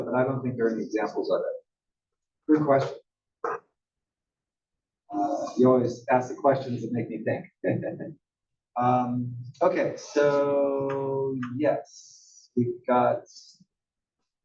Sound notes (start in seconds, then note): 7.5 laugh